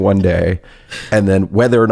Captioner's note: laughs